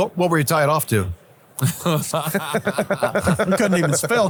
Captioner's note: all laughing